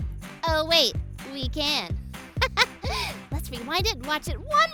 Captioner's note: laughing